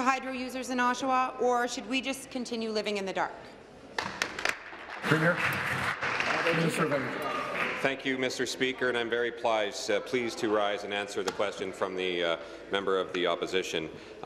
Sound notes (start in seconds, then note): 6.7 applause